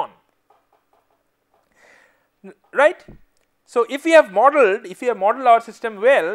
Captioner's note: Stamping